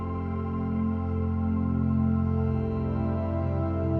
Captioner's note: none